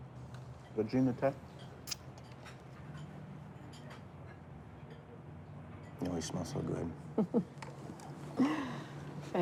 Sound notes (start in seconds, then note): 1.8 lips smacking; 7.2 mother laughs